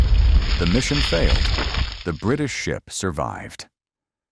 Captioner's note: explosion